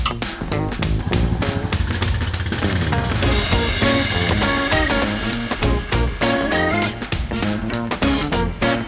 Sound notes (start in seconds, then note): 0.5 ATV engine humming